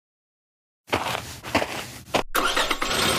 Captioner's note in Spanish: FX - Footsteps - On Multiple Dirt - Walk; FX - Car Starting